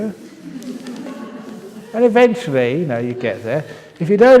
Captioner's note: laughs